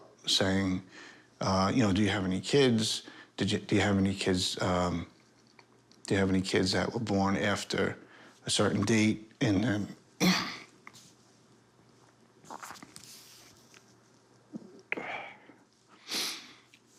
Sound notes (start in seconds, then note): 10.2 clears throat; 16.0 sighs, sniffles